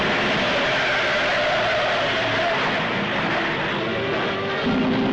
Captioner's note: tires screeching